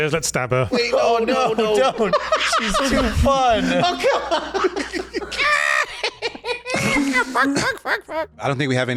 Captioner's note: continued laughter overlaps